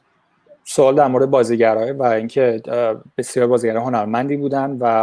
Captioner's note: translates in Persian